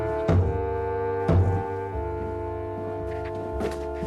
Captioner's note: banging on door